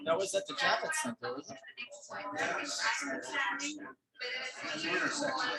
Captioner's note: people chattering indistinctly